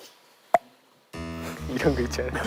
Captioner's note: فرقعة